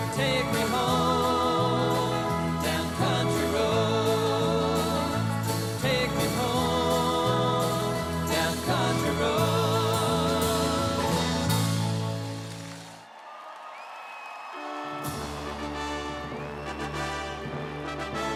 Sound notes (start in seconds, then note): 13.5 audience applauds; 14.7 stately music